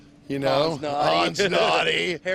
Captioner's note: laughs